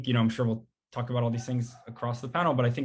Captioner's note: dog barking